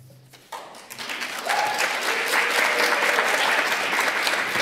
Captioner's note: applause